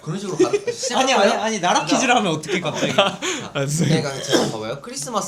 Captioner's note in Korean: 갑작스러운 공격에 웅성웅성